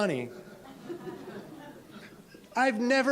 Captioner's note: attendees chuckling